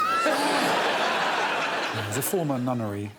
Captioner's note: audience laughing